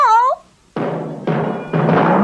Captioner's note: bouncing